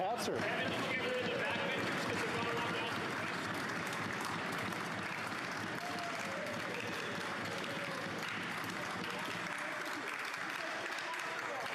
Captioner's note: conversation din